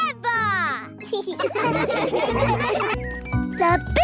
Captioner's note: laughing